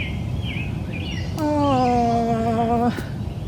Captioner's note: whimpers